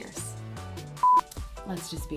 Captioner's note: beep